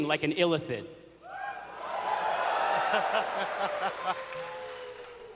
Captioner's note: audience cheers